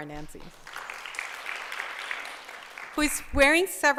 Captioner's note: applause